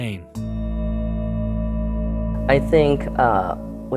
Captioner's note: gong ringing